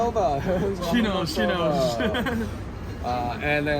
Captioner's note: laugh